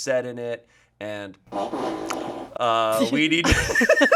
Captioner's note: fart machine farts; laughs